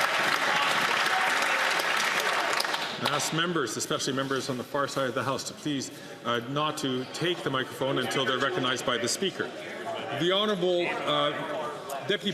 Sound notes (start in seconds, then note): 3.8 some Applause